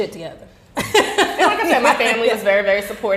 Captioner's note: laughing